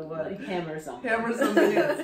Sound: laughs

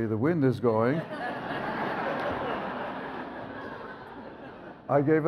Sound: audience laughs

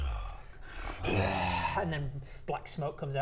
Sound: bwaaaarrgh

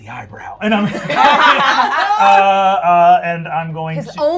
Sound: gamers laughing

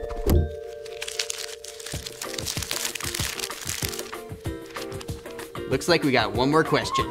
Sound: crumpling paper sound

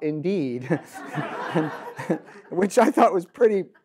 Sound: audience laughs

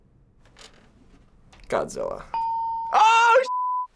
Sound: ding

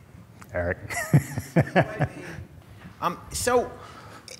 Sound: laughs

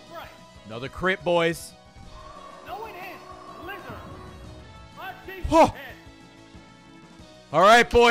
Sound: gasps

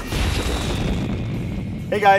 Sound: fireball exploding crackle

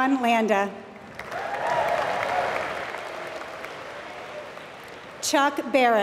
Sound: applause

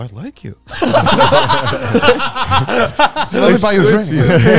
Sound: all laughing; group chattering

